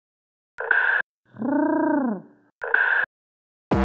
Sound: pigeon coos

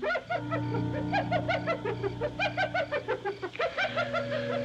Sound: hyena Chattering

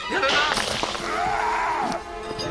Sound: yelling

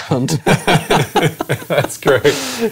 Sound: laughing

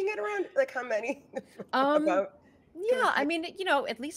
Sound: laughing

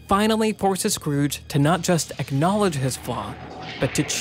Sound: thunder cracking

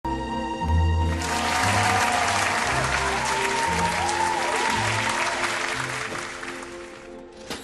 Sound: studio audience cheering

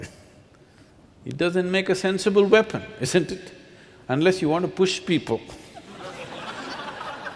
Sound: laughter

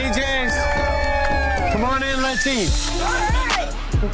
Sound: cheers

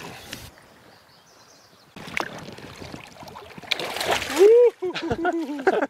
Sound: splash; laughing

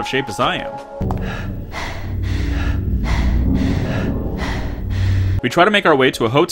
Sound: alternating panting

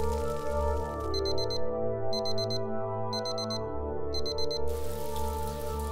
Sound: alarm beeping

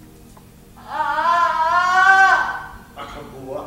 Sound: crying

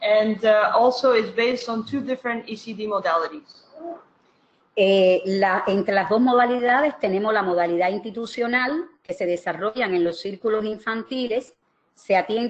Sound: speaking another language

